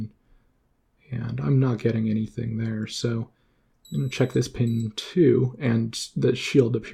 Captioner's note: beep beep